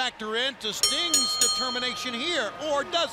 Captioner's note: bell ringing